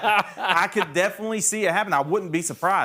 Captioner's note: laughing